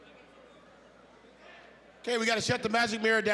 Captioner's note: general chatter